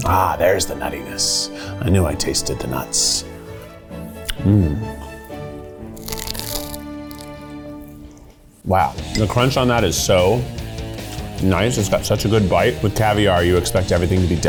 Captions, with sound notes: - Ah, there's the nuttiness. I knew I tasted the nuts. Mm. (food crunches) Wow. (rock music) The crunch on that is so nice. It's got such a good bite. With caviar, you expect everything to be delicate.